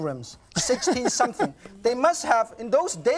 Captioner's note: laughs